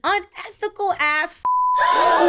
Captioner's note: beep